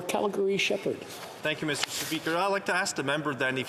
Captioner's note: speaking French